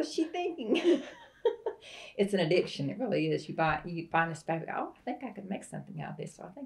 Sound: laughter

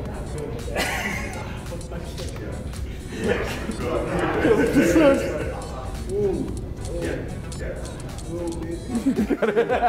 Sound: laugh; laugh

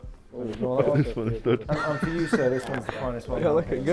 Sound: laughs

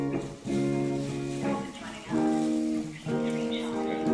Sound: witches chatter

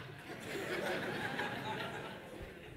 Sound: congregation laugh

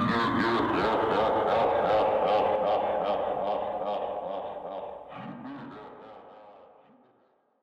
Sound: evil laughter

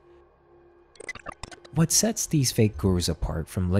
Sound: glitch sound effects

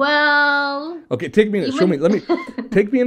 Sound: laughs

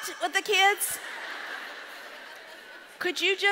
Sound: audience laughs

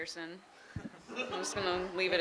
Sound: laughing

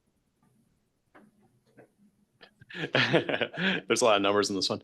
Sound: laughing

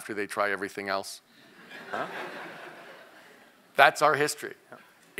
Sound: laugh

